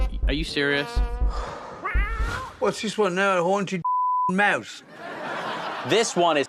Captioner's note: meows